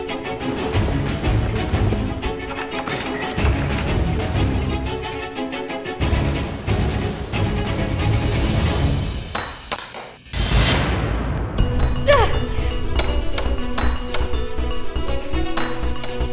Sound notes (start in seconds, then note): 9.1 metal clanging; 11.9 groaning